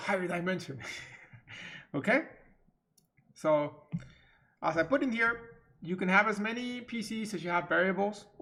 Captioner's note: chuckles